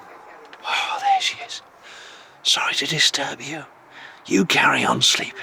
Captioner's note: whispers